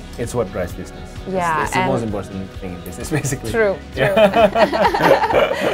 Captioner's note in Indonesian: keduanya tertawa